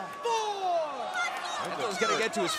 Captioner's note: crowd chatter